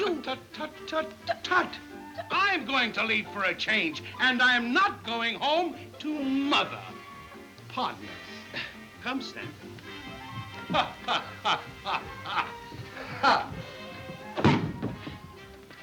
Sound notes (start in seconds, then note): 9.9 laughs; 13.0 gentle music